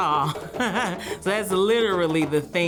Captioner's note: laughs